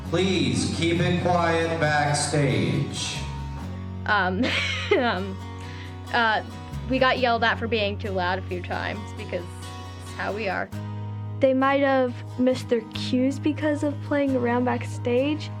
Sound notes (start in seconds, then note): 4.4 laughs